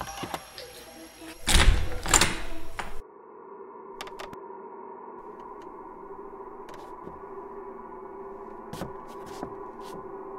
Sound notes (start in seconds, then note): 1.4 door opening; 3.0 unsettling drone-like music